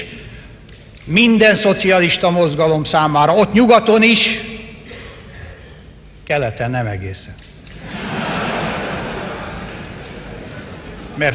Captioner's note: laughter